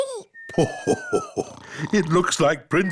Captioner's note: laughs